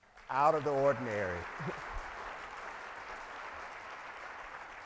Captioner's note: audience applauds